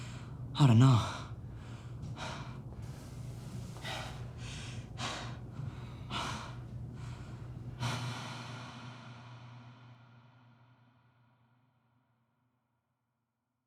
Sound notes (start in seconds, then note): 1.0 breathing heavily